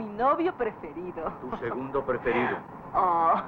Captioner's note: laughs